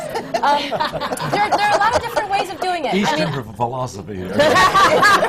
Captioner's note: laughter